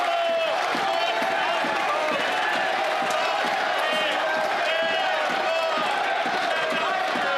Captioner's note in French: applaudissements